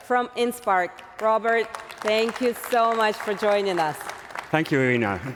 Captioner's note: applause